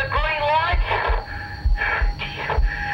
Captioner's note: breathing heavily